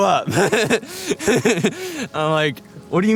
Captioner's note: laughs